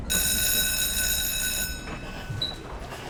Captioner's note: bell rings